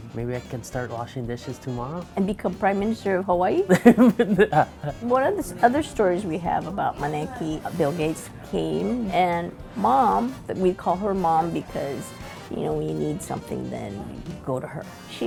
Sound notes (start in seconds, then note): 3.6 laughing